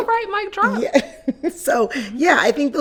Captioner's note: chuckles